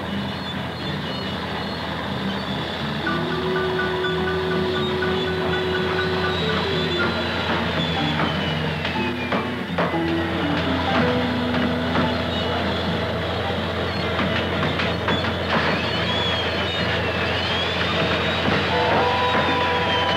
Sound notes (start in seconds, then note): 10.4 hammering; 13.8 sounds of industry, faint music